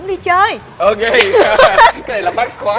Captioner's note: laugh